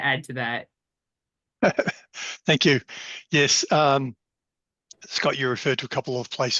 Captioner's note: laughs